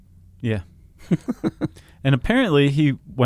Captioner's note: laughs